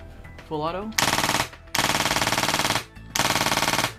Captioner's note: gun clicks faster